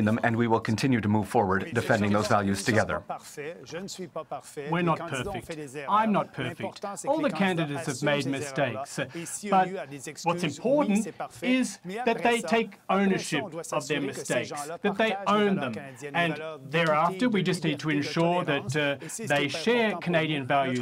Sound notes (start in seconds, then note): 3.3 speaking French; 5.0 voice of translator